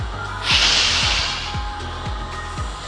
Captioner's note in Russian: Выдох